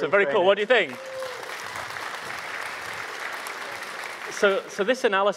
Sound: audience applauding

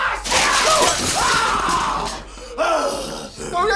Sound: growls

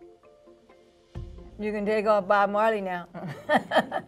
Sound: chuckles

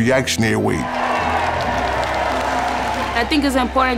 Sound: crowd cheering

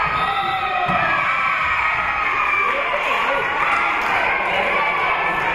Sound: spectators and team cheering; whistle being blown

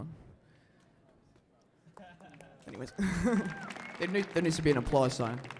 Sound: laughter

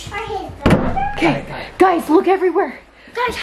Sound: door shuts

